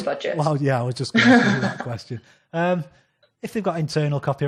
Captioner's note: laughs